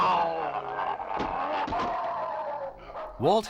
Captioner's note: howling